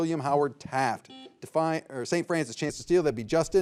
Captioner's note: signal beeps